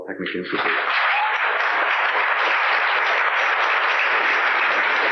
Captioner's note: applause